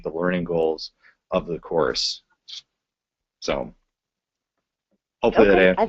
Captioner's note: pause